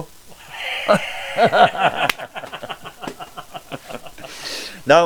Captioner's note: laugh